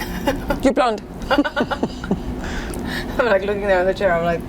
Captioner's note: laughing